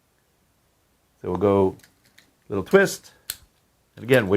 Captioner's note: lock clicking